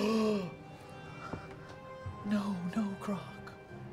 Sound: gasps; quietly

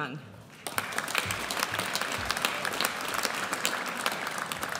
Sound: audience applauds

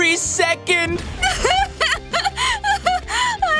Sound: sobbing

